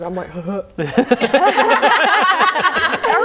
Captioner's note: laughing